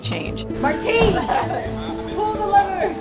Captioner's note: chuckles